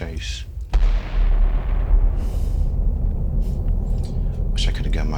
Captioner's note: bomb thundering